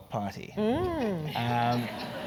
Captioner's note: laugh